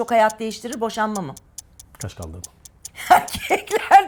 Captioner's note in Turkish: kahkaha